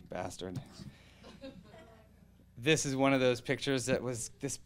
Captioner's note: audience laughing